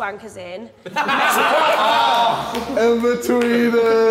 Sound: Sidemen laughing

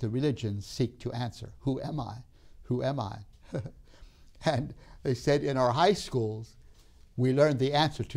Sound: laughs

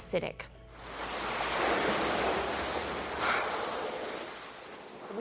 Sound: waves crashing

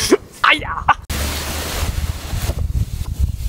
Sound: trees rustling

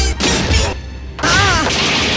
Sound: wham

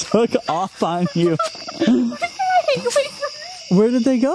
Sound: laughs; laughter

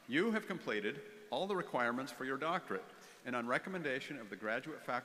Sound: none

